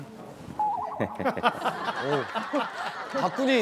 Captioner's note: Chuckling